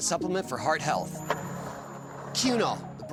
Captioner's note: skateboard wheels roaring